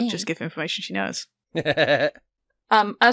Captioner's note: Annie laughs